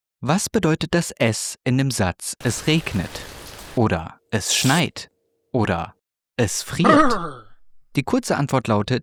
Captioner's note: it rains